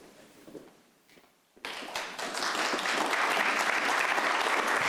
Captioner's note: audience applauds